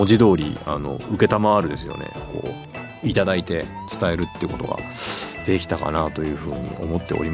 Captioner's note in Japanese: 鼻息